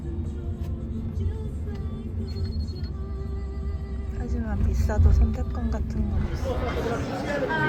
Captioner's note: sob